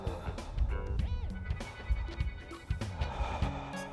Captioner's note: breathing heavily